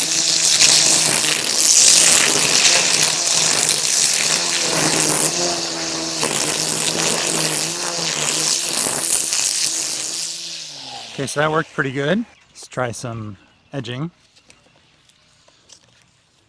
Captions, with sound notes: [aggressive trimming noises] pretty good let's try some edging